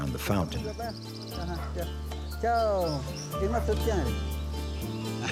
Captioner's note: Spanish spoken audio